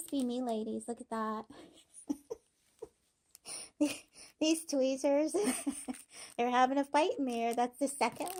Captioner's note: laughing